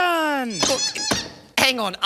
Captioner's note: chicken squeaking